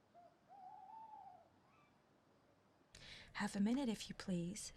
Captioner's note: owl hooting